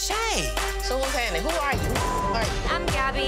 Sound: beep

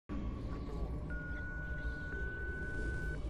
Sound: beeping

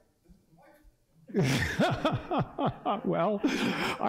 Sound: laughter

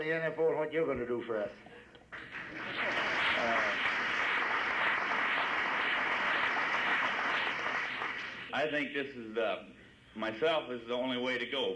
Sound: applause

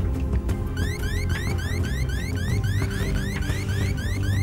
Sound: alarm buzzing

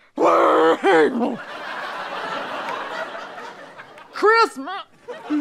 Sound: angry growling; audience laughter; strangled voice; audience laughter

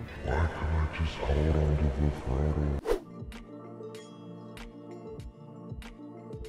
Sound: deep voice

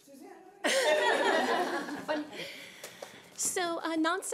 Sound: laughing

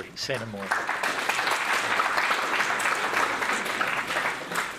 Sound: audience applauds

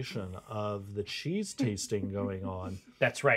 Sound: speaker chuckles

